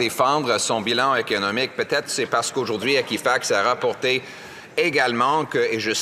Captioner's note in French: voix de l'interprète